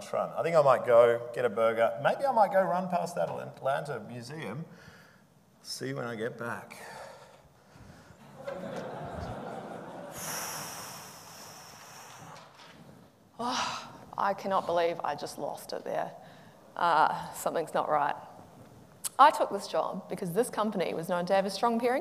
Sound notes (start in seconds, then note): 8.2 audience laughing